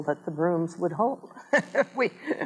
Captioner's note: laughs